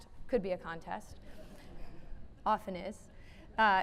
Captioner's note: laughing